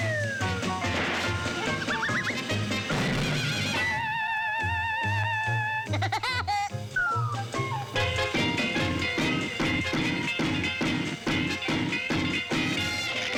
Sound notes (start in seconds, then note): 0.3 boom; 3.3 maniacal laugh; 9.2 chop-chop; 11.8 crackling